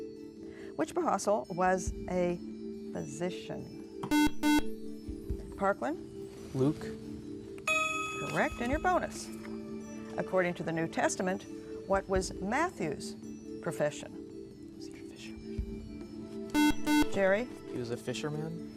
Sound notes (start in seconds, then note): 4.0 buzzer; 14.6 whispering; 16.5 buzzer